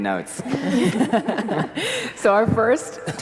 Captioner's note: laughter